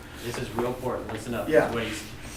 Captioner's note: voiceover